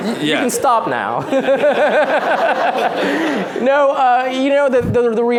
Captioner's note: laughter